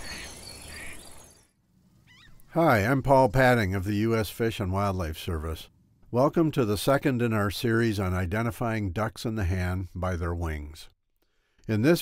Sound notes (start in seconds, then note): 2.5 nature Sounds